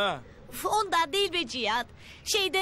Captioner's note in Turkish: none